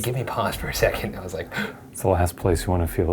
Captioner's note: gasps